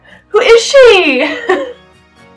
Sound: laugh

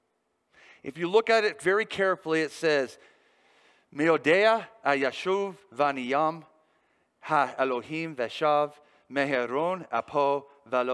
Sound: speaking the term in Hebrew

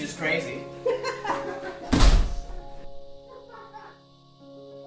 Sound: both Orderly's laugh

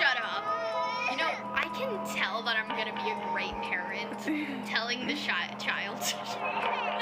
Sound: sarcastic

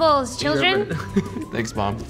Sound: laughter

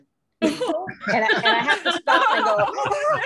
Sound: laughter

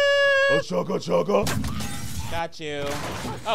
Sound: soldier yelping; window smashing; guns blasting

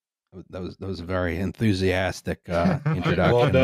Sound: laughing

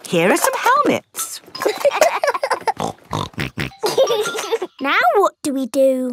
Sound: laughing; snorting

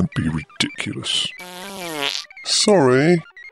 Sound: passing wind

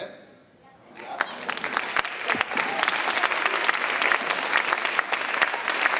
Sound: audience applauding

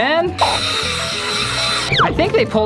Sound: drilling sound

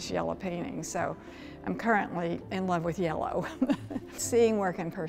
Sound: chuckles

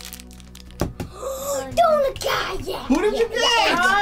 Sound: gasps

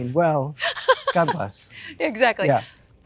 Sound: laughs

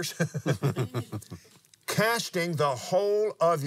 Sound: laughs

